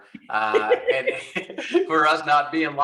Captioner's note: both laughing